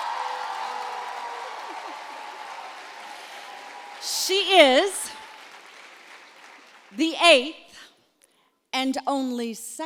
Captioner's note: applause